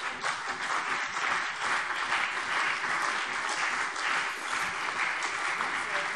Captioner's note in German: Beifall CDU und BÜNDNIS 90/DIE GRÜNEN